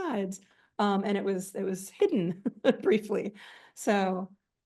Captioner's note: chuckles